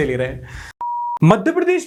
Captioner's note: beep